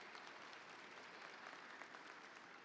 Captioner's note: audience applauding